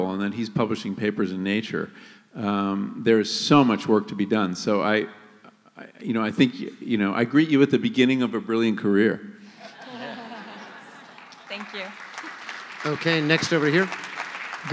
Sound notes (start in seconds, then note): 9.6 laughter; 10.9 applause